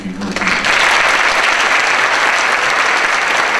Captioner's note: applause